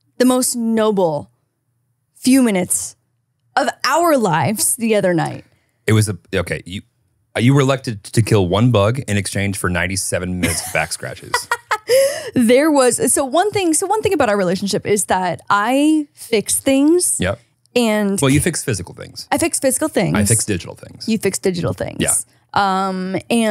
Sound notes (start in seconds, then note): 10.4 laughing